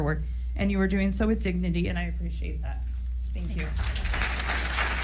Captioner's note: applause